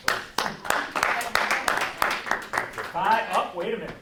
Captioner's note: clapping